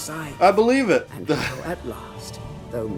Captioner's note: laughs